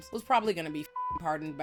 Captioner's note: beep